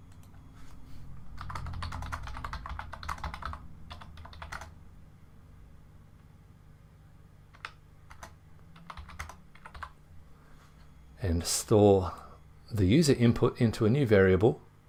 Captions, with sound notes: (keyboard typing) And store the user input into a new variable